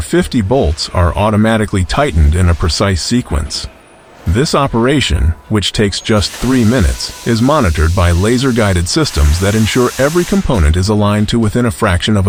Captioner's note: machines whirring